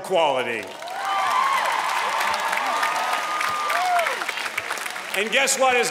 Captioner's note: applause